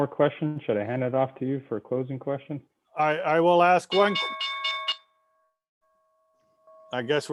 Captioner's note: bell rings